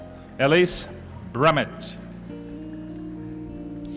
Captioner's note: none